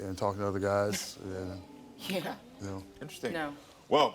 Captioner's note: scoffs